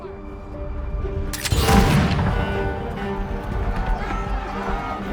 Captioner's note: cannon fires